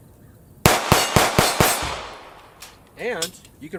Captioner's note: gunshots